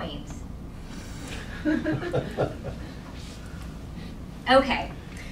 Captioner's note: audience chuckling